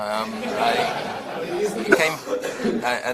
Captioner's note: audience laughs